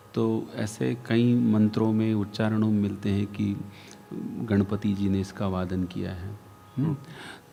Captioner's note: chants